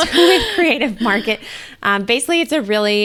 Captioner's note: laughs